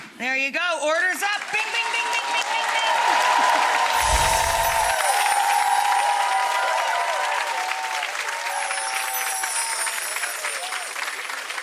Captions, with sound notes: There you go, order's up! Bing, bing, bing, bing, bing, bing, bing! (audience cheering) (chimes ring)